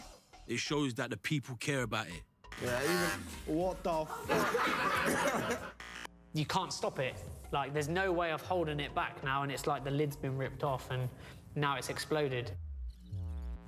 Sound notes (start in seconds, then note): 2.5 loud buzzing; 4.0 all laughing